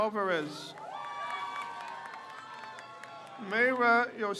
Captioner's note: crowd cheers